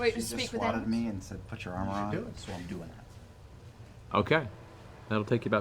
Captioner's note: laughs